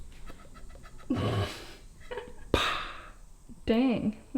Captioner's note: laughs